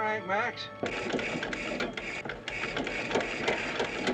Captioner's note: engine cranking